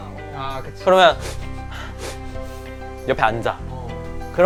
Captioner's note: sniff